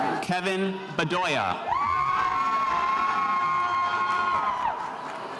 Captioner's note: spectators cheering